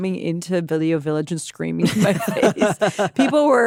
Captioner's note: laughs